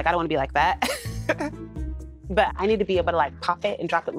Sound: laughs

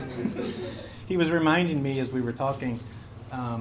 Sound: laugh

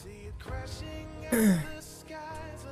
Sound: clears throat x4

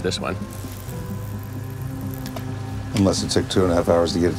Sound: reel clicks; water splashes

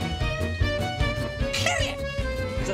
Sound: shrieks

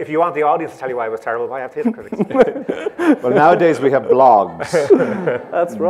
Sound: laughter

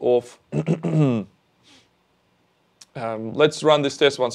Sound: clears throat

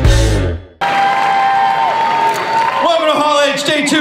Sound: cheers and applause

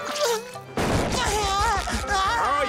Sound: crying

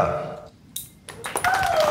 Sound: pencil drops .. stunned applause

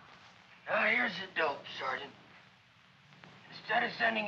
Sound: diminished voice

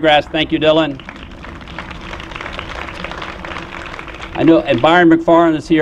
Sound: applause

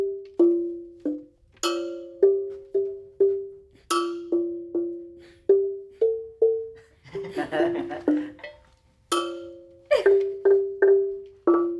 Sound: people clapping

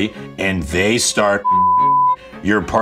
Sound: beeps

